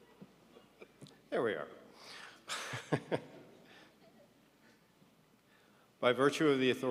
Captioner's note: laughs